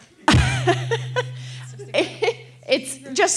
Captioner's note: laughs